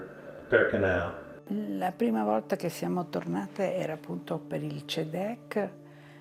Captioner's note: speaking in foreign language